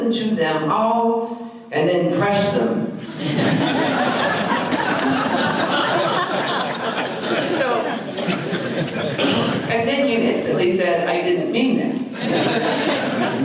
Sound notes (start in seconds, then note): 3.0 audience laughter